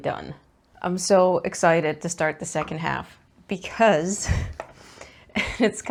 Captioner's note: laughs